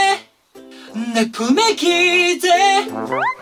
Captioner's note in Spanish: La voz explota